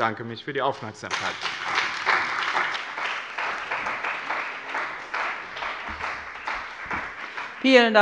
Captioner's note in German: Beifall bei dem BÜNDNIS 90/DIE GRÜNEN und der CDU